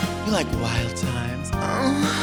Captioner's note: moans